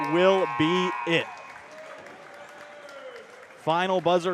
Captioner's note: applause